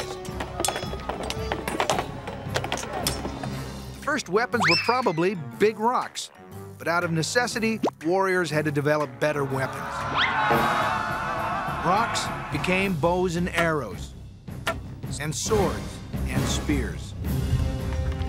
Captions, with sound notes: [clattering] First weapons were probably big rocks, but out of necessity warriors had to develop better weapons. [shouting] Rocks became bows and arrows, and swords, and spears.